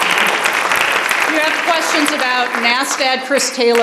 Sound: applause

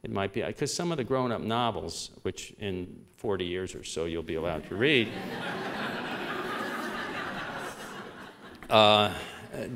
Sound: laughter

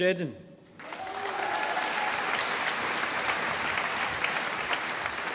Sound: audience applauding

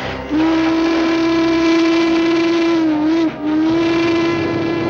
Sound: train whistle blowing

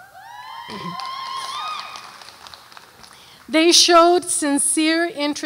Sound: audience cheers

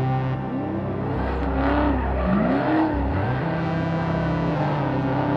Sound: engine roaring

